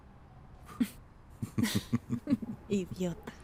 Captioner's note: risas